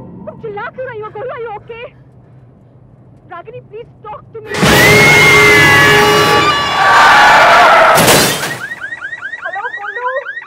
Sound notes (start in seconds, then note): 4.5 screaming; 7.2 car crashing